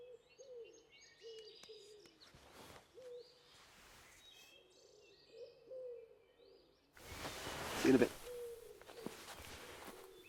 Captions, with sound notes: (birds chirping) - See you in a bit.